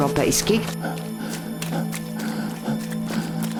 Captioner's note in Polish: przyspieszony oddech i sapanie